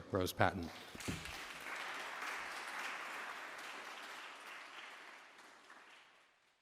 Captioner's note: applause